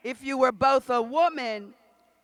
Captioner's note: none